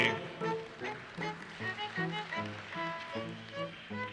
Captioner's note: audience applauses